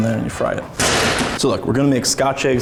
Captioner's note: sizzle